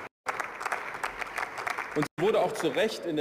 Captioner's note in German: Beifall